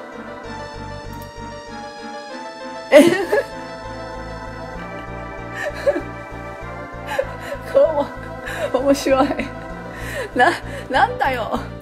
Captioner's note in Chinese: 大笑